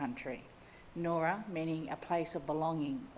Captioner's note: speaks in Ngunnawal language